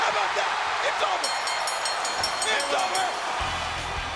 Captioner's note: audience cheers; bell rings